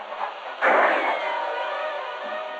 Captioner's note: gunshot